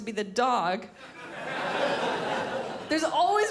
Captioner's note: crowd laughs